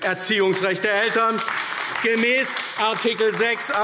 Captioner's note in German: Beifall AfD